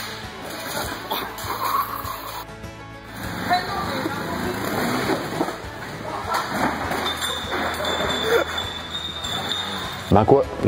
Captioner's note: background laughs